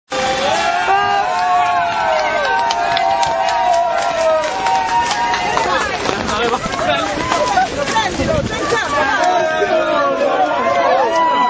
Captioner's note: voices of the crowd